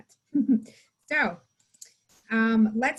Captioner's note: giggles